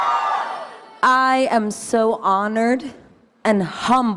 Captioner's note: audience cheering